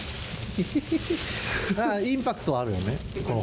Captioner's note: laughs